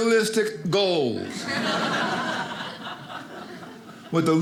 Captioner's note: audience laughing